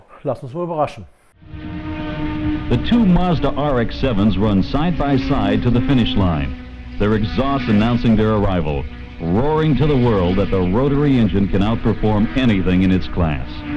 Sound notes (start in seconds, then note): 1.5 car sounds